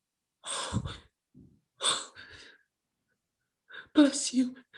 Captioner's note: exhales heavily